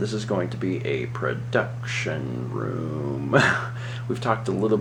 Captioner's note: laughs